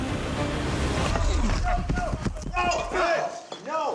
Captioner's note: fighting, yelling